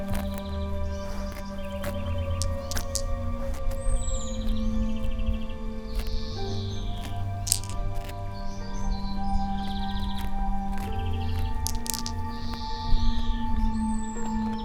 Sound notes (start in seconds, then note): 1.0 corn rattles; 8.1 slow music